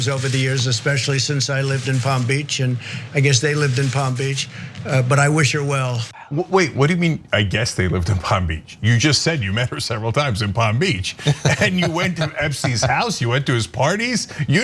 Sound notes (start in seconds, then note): 11.0 laugh